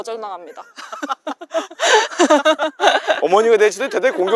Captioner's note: laughter